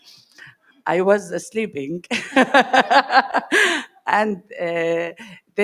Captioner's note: laughs